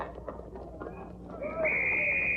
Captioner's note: whistle blowing